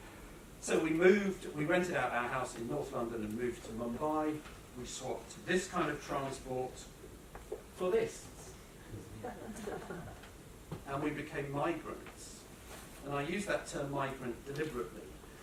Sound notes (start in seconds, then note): 9.1 laughter